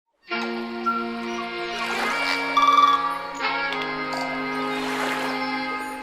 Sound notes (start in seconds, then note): 0.0 nature sounds; 0.2 bright music